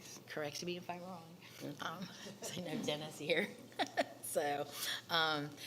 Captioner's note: laughs